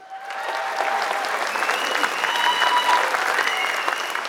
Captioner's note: applause